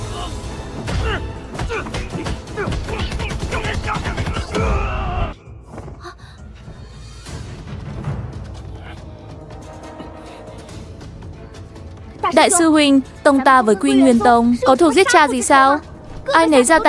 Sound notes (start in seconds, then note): 1.5 groaning; 5.3 shouting